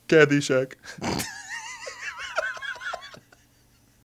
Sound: crew cracks up

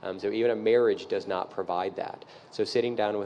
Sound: none

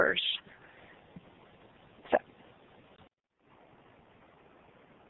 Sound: silence

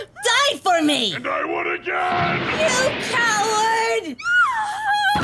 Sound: Chi-Chi screams

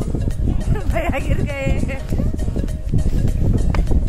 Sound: laughing

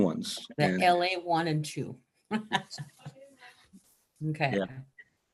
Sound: chuckles

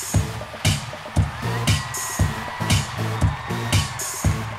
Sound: crowd cheering

